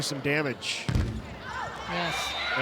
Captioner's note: ball thumping